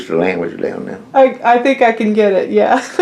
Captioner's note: laughs